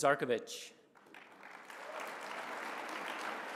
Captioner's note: applause